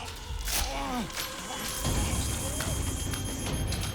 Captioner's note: alarm beeping